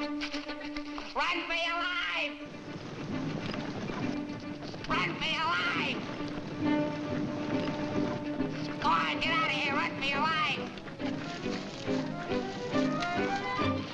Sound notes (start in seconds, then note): 2.4 cattle rumbling; 6.7 giraffes rumbling; 10.5 deer galloping